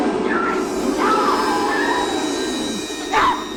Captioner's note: screaming